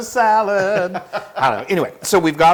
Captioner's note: laugh